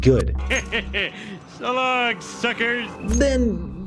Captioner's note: laughs